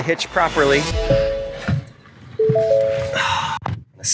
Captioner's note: beeping